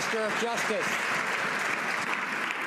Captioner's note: some Applause